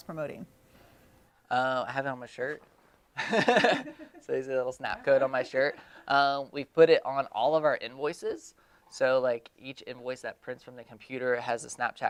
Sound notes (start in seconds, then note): 3.2 laughing